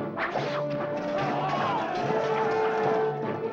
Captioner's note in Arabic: سهام تنطلق; موسيقى مشوقة; الجنود يتأوهون ويصرخون; موسيقى مشوقة